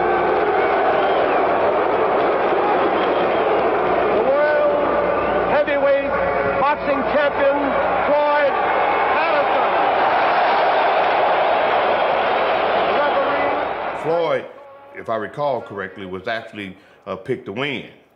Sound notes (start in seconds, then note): 0.1 crowd booing; 10.7 crowd cheering